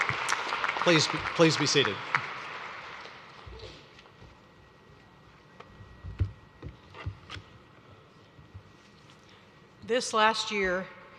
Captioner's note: cheers and applause